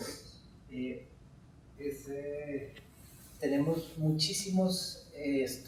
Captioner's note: speaking in Spanish